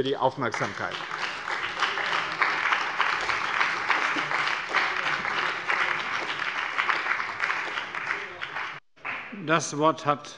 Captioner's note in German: Beifall bei dem BÜNDNIS 90/DIE GRÜNEN und der CDU